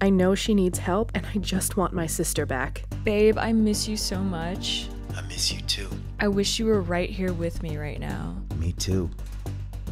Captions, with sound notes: - I know she needs help and I just want my sister back. - Babe, I miss you so much. - [Voiceover] I miss you too. - I wish you were right here with me right now. - Me too.